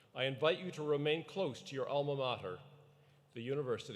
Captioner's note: none